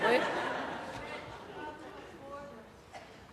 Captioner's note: laughter